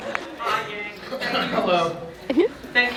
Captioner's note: coughs